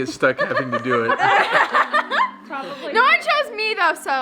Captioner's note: all laughing